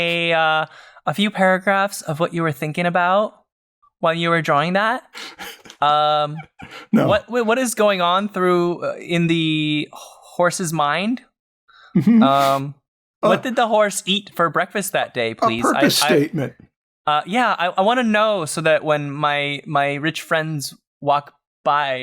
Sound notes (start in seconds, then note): 6.4 chuckles